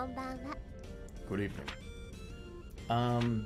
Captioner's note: deep voice